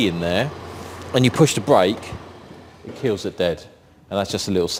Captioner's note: engine stops